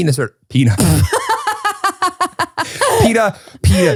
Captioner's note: laughs loudly